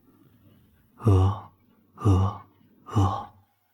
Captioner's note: crying sounds